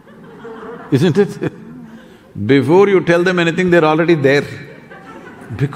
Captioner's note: few laugh